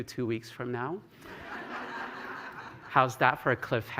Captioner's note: laughter